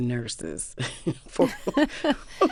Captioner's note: laughter